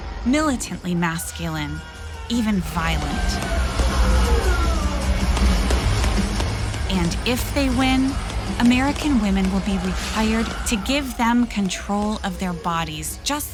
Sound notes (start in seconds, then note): 2.7 rock music; 3.7 guns popping